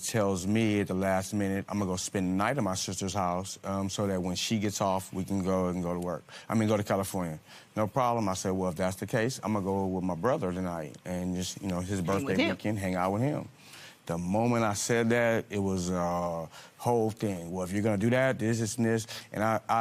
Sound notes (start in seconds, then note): none